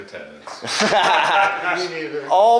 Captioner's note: laughing